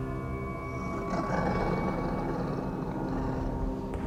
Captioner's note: growling